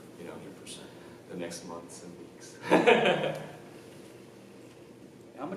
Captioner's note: laughs